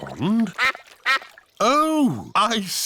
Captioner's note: quacking